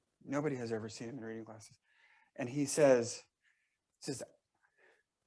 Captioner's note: none